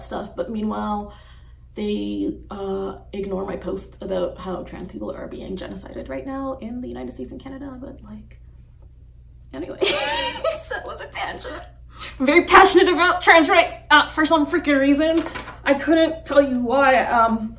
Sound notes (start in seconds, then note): 9.8 chuckles